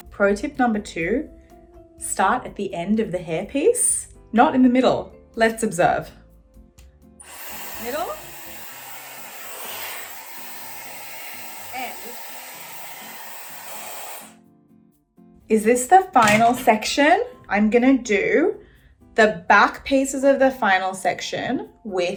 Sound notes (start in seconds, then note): 8.9 hairdryer whirring; 12.7 hairdryer whirring